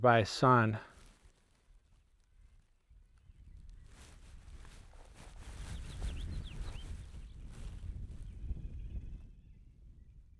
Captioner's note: wind